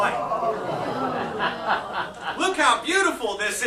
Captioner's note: laughter